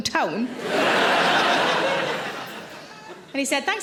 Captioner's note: audience laughs